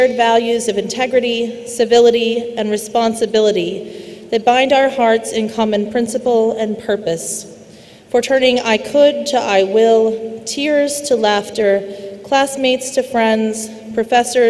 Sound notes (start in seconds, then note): none